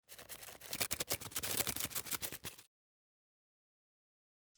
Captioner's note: wings flapping